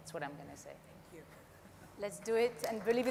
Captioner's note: audience applauds